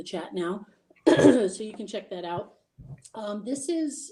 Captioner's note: lady clearing throat